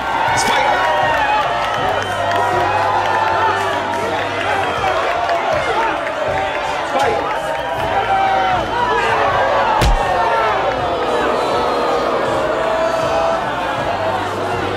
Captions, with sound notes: Let's fight! Let's fight! [crowd cheering] [punching]